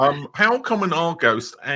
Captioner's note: laughs